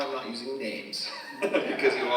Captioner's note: presenter chuckling; audience chuckling